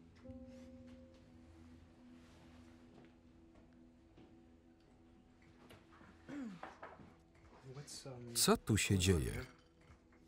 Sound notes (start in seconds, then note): 6.2 Claire's throat clearing